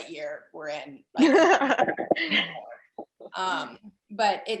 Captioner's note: laughs